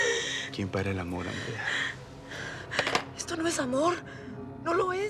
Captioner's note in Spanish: Sollozos